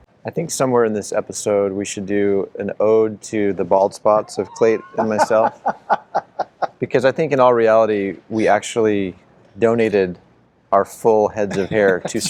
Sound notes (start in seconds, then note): 4.2 laughing